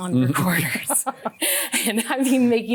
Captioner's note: both laughing